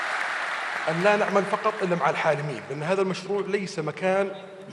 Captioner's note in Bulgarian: Аудио на арабски